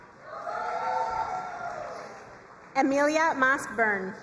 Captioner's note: crowd cheering and applauding